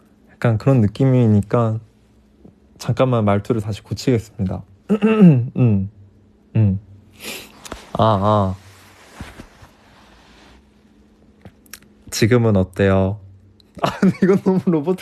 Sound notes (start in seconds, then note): 4.8 clears throat